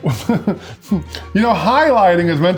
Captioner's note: laughing